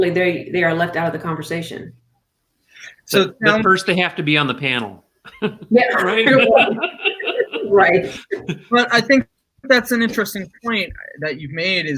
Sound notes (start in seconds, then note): 5.2 laughing